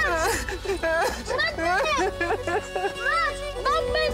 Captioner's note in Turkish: Ağlıyor